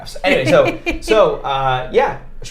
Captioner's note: laughing